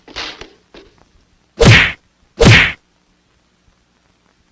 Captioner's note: smack!